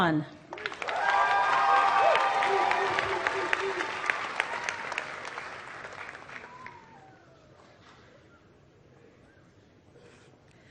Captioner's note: applause